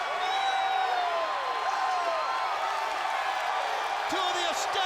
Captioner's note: audience cheering